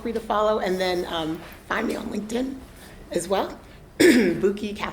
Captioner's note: coughs